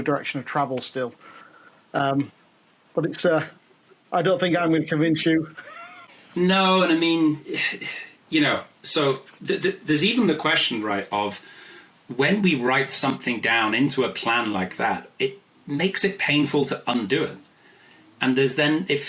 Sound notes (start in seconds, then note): 5.5 laughs